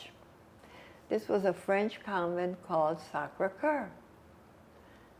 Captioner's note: french